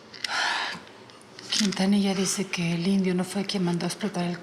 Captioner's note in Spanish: exhala